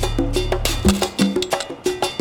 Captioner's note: sign rattles